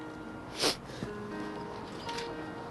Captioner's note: sniffling